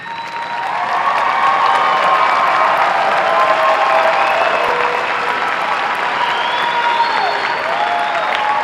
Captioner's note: applause